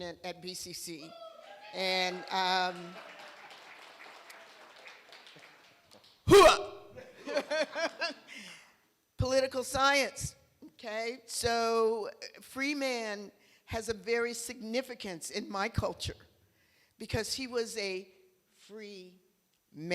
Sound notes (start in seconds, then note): 1.0 cheer; 7.0 laughter